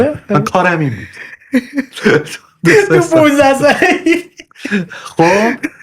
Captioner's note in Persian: خنده